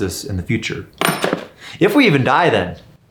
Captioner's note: coin clattering